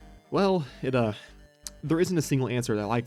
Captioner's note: subconscious mouth click